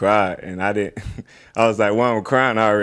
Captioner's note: chuckles